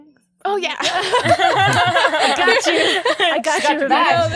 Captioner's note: all laugh